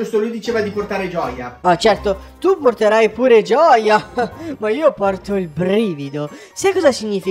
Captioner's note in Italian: ridacchia ironico